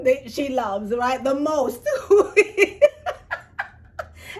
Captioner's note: laughs